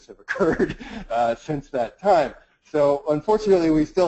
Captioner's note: laughs